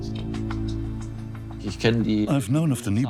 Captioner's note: in German; dubbed in English